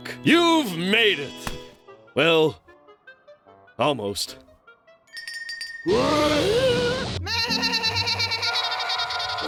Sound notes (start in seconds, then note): 5.0 bell rings; 7.2 bleating loudly